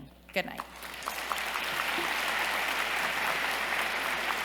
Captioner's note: applause